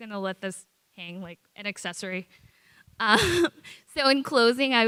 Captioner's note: chuckles